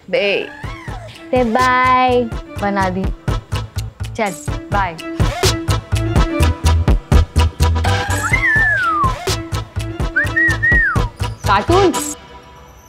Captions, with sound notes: From babe to... maid. Okay, bye! [Whistles] Cartoon.